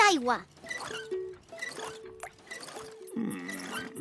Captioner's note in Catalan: aixeta: grinyola